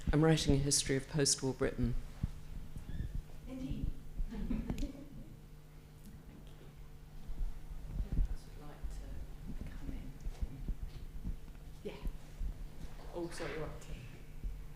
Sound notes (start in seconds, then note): 9.8 participant faintly speaking